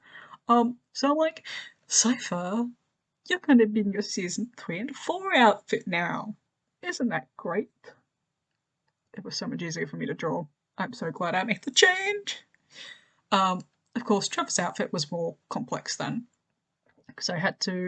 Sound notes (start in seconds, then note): 11.6 higher pitched voice; 13.2 normal voice